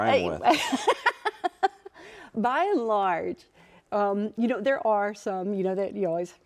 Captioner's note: laughs